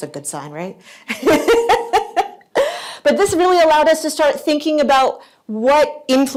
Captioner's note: laughs